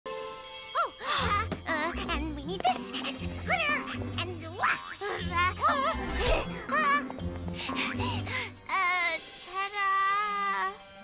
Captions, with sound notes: [gasps] And we need this and some glitter.. Ah wha-- [panting] Uh… Tah dah…